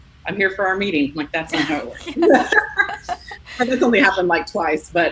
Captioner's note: laughs